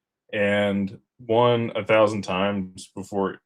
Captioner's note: none